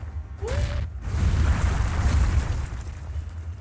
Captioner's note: big badaboom